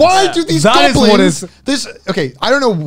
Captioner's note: murmurs